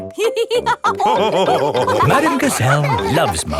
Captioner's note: all laughing